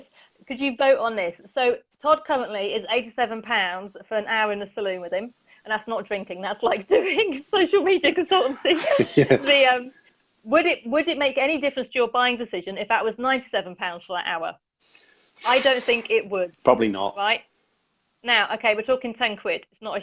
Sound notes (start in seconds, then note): 8.3 laughs